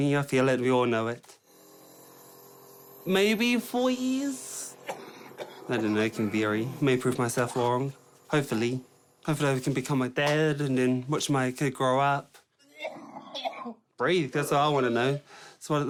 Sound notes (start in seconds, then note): 1.6 air hisses; 4.7 coughs; 12.8 coughs forcefully